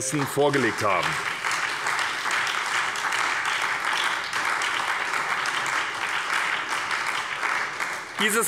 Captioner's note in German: Beifall bei der SPD